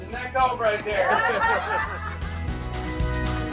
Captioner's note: passengers laughing